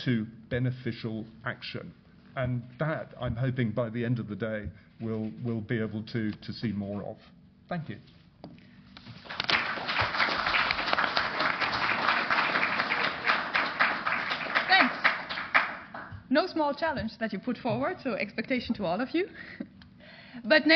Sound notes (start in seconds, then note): 9.1 applause